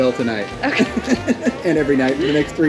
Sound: laughs

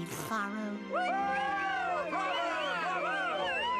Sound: audience cheering

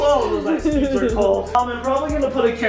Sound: laughing

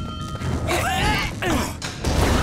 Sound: grunting

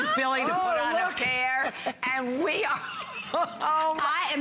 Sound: laughter

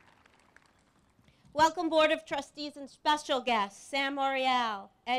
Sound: applause

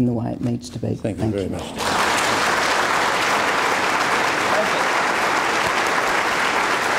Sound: audience applause

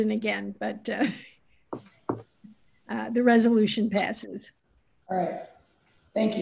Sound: laughing

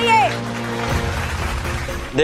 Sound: clapping

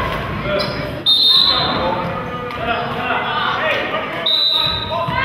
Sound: whistle blows; whistle blows

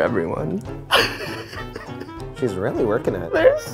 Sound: laughing

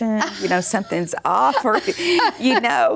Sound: laughs

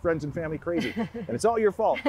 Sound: laughing

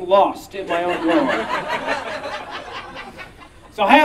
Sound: audience Laughing

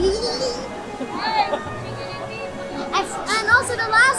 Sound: laughing

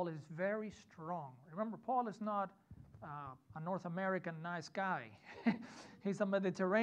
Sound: chuckles

